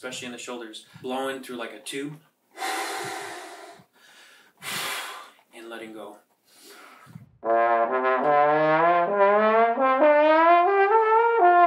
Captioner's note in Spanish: sopla aire